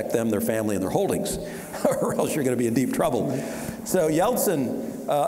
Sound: chuckling

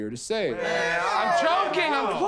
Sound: groaning

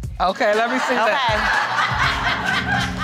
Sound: audience laughing

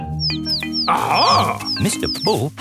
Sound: chirping

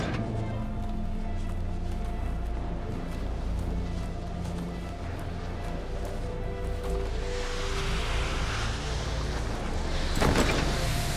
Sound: thunder rumbling; dramatic music

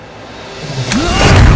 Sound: snap of fingers

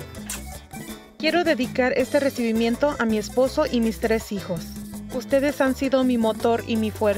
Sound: speaks in foreign language

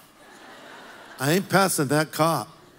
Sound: congregation laughs

